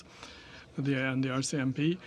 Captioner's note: speaking French